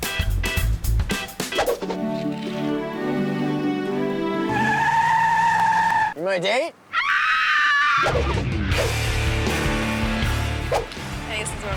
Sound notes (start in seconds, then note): 4.4 screeching tires; 6.9 screaming woman; 8.2 heavy metal music